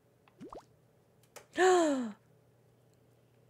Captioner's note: gasps